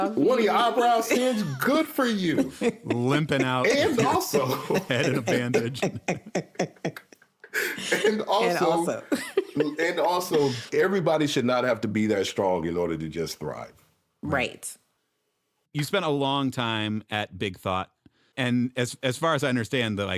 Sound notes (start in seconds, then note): 2.6 everyone laughing